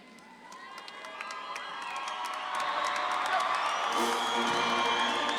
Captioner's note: audience claps and cheers; upbeat ceremonial music